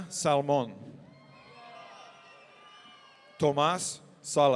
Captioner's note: audience cheering